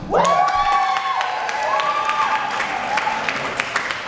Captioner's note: applause